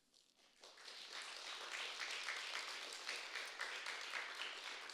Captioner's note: applause